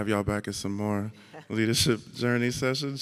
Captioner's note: laughs